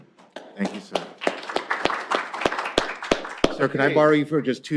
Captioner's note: applause